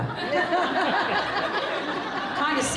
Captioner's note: laughing